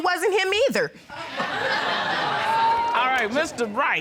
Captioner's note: audience laughing